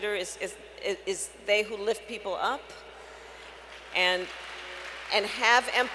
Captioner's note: applause